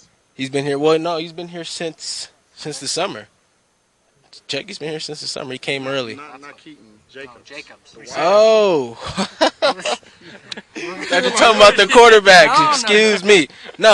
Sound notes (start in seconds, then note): 8.9 laughs